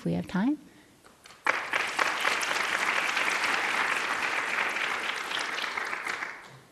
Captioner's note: applause